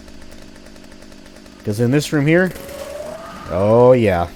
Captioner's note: Trash Hags howl